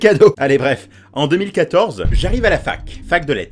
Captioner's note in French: explosion